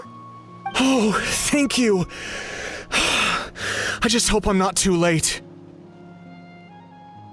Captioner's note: sigh